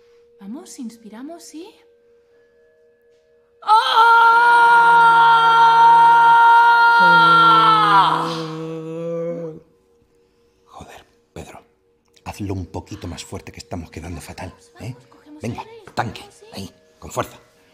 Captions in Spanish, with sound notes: Vamos, inspiramos y... (TODOS GRITAN) -Joder, Pedro, hazlo un poquito más fuerte que no se nos oye... -Venga, vamos, cogemos aire, inspiramos y... -Ahí, con fuerza.